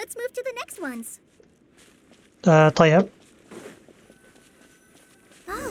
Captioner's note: footsteps